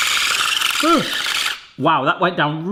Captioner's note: motor whirring; yelps